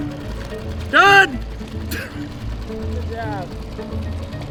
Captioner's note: laughing